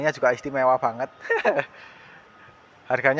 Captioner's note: laughs SFX